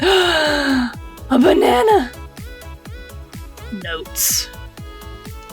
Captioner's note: gasp